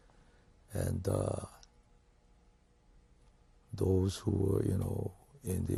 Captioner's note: pauses for 3 seconds